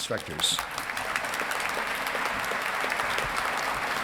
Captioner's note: audience clapping